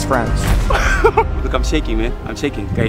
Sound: laughs

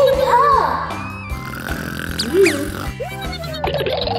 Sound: snoring

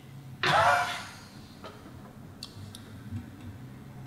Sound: John laughs

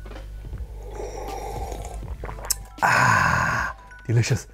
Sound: taking a sip

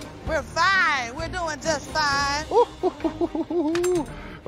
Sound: laughing

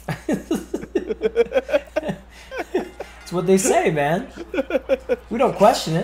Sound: laugh

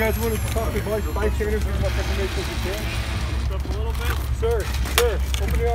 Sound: stretcher wheel rattling

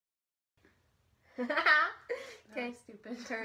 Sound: laughs

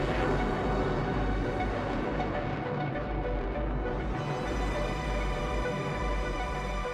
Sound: tense music continues; airplane engines rumbling

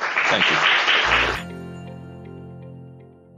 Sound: audience clapping; upbeat music

